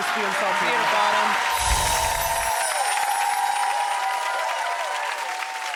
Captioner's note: cheering and clapping; bells chiming; audience cheering and clapping